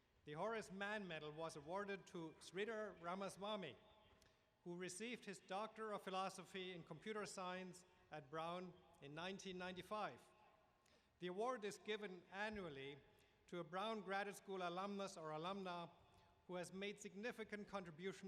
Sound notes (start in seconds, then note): none